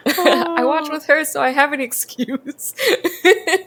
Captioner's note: laughs